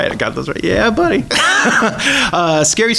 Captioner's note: laughs